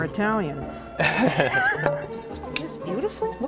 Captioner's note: laughter